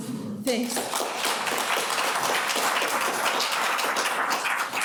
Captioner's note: audience applauding